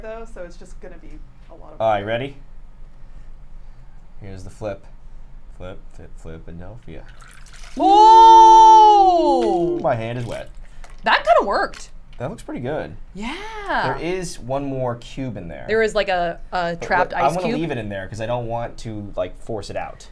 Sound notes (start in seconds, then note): 6.8 liquid pours